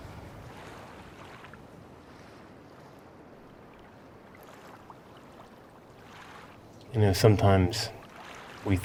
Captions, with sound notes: [WAVES GENTLY ROLLING] YOU KNOW, SOMETIMES...